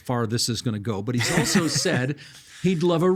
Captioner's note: laughing